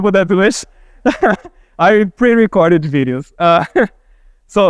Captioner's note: laughing